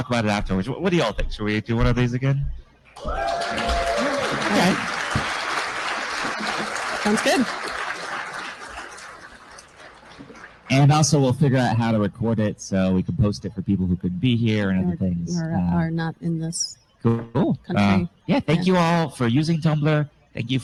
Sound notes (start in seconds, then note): 8.7 applause